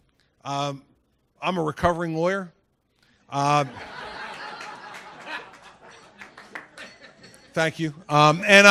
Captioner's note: laughter